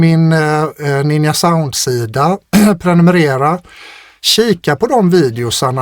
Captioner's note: clears throat